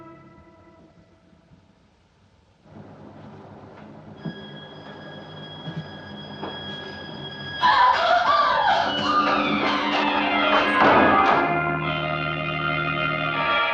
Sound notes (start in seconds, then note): 7.5 gasps